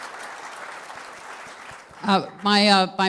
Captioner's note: applause